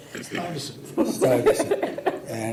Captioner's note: laughs